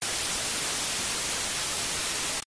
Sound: TV static

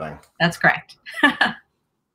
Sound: laughing

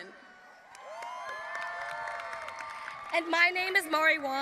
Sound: audience applauding and cheering

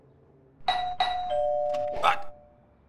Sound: urgently rings doorbell

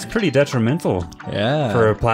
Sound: sarcastically

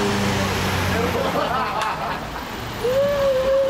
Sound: laughter

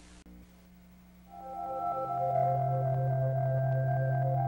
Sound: satellite sounds from outer space

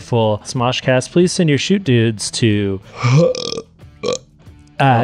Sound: burping

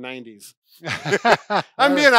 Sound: laughter

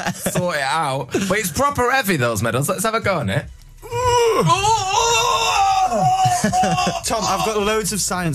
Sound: straining noises

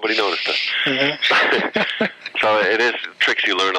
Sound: laughter

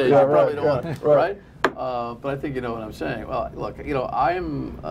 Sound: laughter

